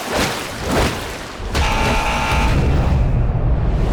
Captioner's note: buzzing